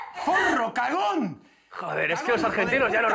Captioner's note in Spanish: grita